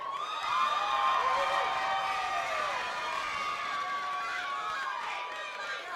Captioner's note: attendees cheering and clapping